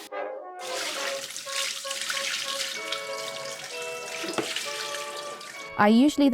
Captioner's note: water rushing; water splashing